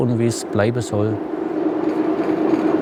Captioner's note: machine sounds